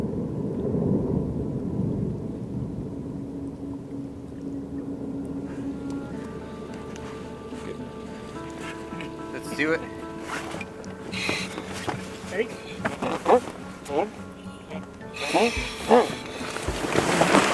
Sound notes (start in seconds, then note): 6.7 ice rumbles